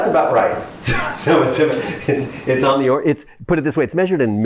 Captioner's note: chuckles